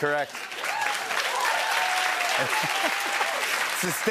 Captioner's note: cheers and applause; laughs